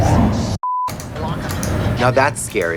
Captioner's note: beep; elevator whirring